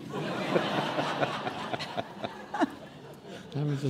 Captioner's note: laughing